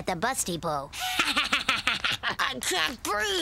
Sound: laughing

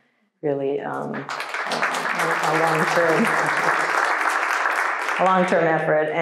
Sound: audience applauding

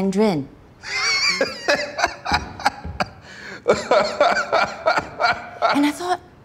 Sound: laughs

